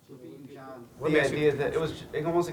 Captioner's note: attendees murmuring